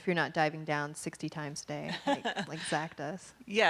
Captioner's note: laughing